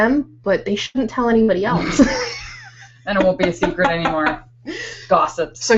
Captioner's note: laughing